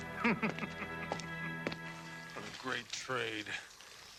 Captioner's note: Kleel laughing